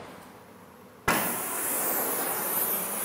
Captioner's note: hissing of the Bunsen burner